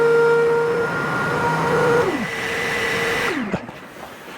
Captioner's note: none